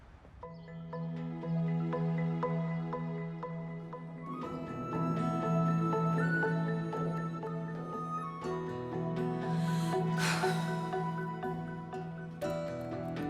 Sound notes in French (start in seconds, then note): 9.6 soupirs